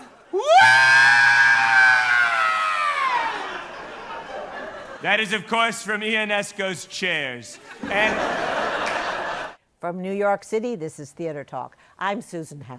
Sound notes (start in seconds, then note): 7.5 laughter